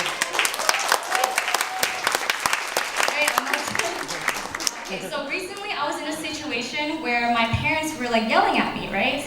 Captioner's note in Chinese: 掌聲